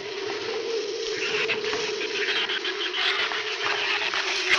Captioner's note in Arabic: ثرثرة الزبابة